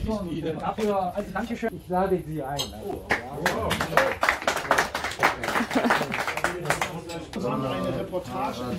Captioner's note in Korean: 박수